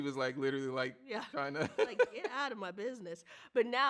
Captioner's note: laughs